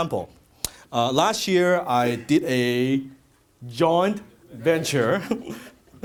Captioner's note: laughs